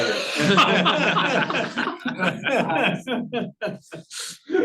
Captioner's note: audience chuckling